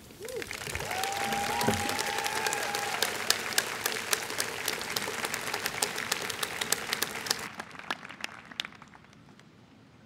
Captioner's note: applause